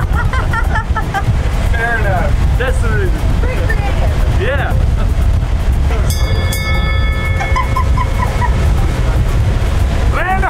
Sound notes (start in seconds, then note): 0.0 both laughing; 6.0 bell ringing; 7.3 laughing